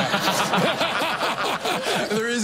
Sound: laughing

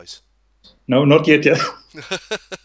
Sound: laughing; both laugh at funny joke

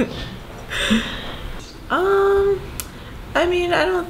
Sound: laughs

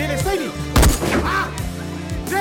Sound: gunshot

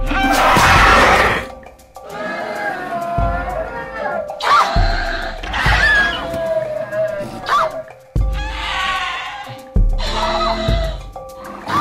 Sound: baby Herd Sounds

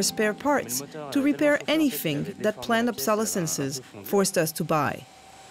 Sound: murmuring

